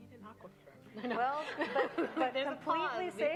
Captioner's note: laughing